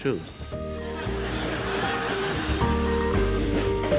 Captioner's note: audience laughs; light orchestral music